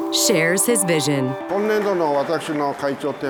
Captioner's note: japanese